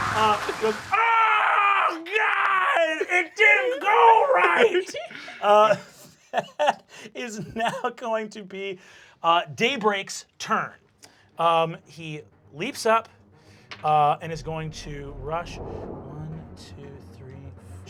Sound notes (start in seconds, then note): 5.9 laughs